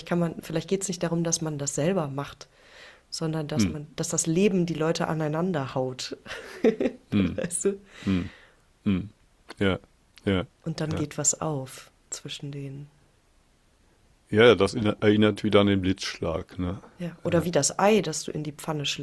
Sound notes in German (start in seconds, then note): 8.8 räuspern